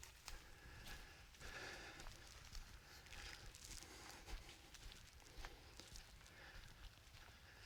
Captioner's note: footsteps